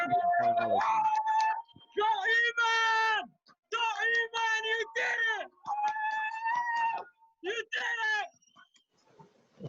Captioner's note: cheers